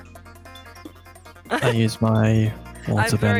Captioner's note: laughs